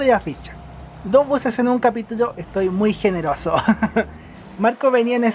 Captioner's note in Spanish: risas